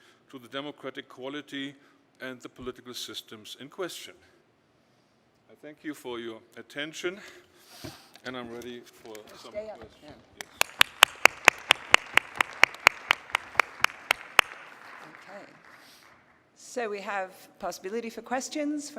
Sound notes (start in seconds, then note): 10.3 applause